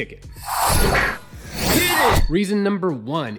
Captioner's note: digital whoosh